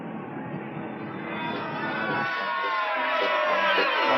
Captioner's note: crowd cheering